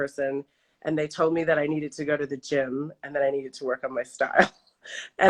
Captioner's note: laughs